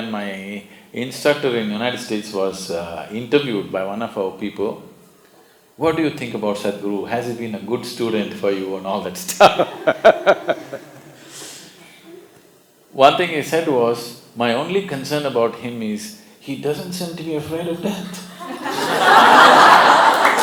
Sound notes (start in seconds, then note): 9.3 laughs; 18.1 laughter